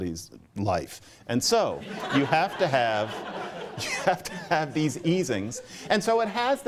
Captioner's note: laughter